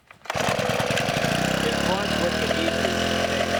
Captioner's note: engine noise